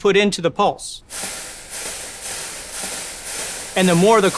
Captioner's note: coils rattle